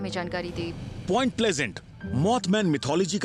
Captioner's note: narrating